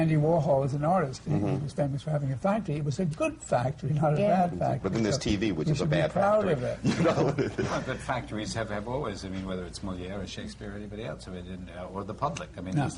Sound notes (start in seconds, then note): 6.8 laughs